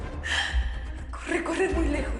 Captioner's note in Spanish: Sollozo